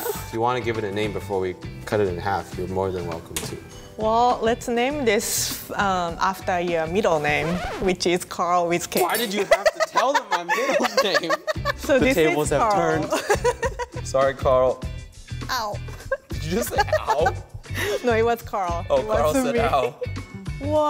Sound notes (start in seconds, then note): 11.3 laughing; 13.9 laughs